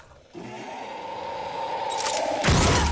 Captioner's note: monster roars loudly